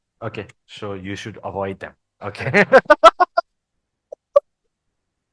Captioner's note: laughters